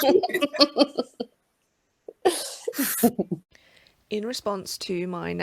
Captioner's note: laugh